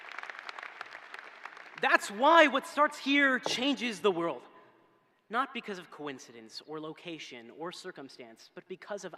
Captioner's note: applause